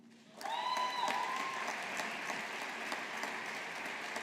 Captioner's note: audience applauding